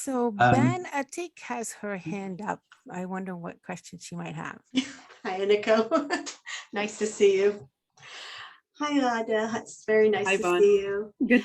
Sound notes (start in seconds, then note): 5.2 laughs